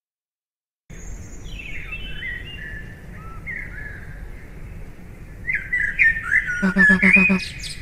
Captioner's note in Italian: cinguettio degli uccellini